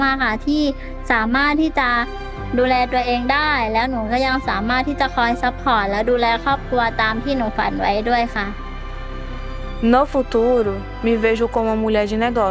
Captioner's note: not speaking english